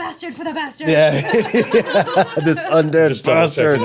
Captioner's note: everyone laughing